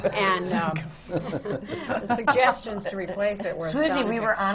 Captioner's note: laughter